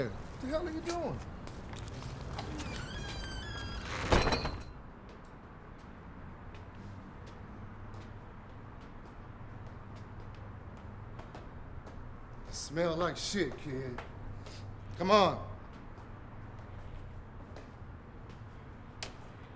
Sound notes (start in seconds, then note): 13.9 sniffs